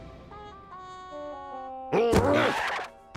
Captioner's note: grunts